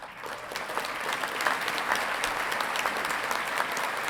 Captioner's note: audience clapping